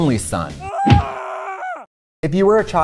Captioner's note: man yelling